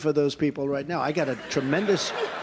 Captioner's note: laughter